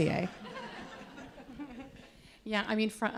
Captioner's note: audience laughing